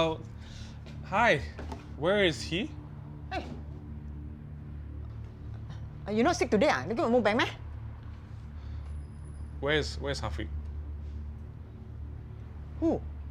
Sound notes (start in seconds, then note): 6.1 in Cantonese